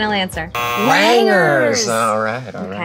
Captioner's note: buzzer buzzes